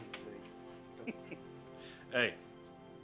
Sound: chuckling

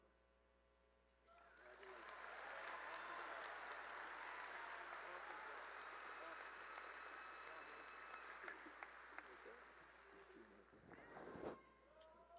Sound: cheering and applause

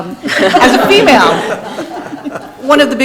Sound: people laughing

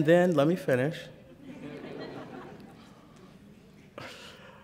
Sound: laughter

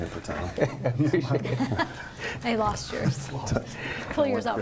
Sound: laughs

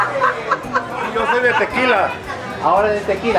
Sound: Spanish

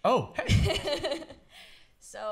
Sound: laughs

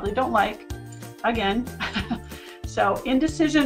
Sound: laughs

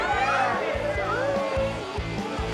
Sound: people shouting; upbeat music

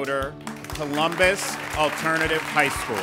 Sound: ^applause^

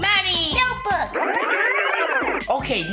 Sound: tape fast-forwarding sound

